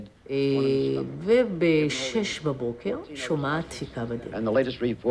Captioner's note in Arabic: الصوت المنطوق باللغة العبرية